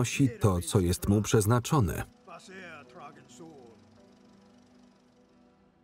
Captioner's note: speaking in foreign language